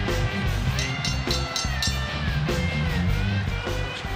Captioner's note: bell ringing